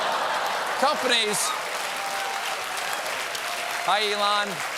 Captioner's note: applause